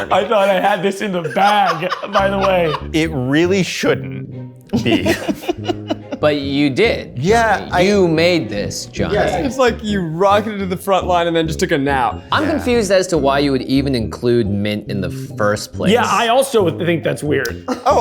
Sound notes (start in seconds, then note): 4.9 laughs